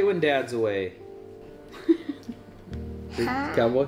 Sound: laughs

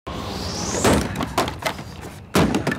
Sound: crash

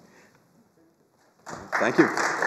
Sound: applause

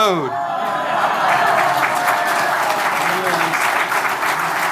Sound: audience applauding

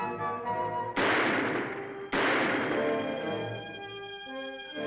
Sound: gun fires twice; dramatic music

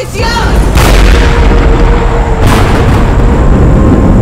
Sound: thunder rumbling

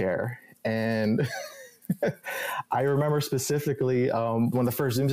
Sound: laughs

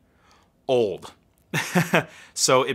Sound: laughing

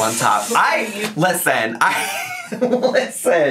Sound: laughing

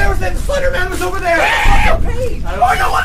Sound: stressed scream

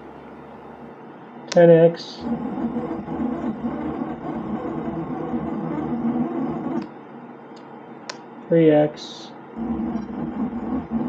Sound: creaky stepper motor noises

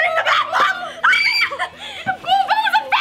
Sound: screaming

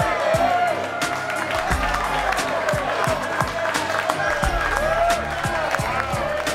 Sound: applause

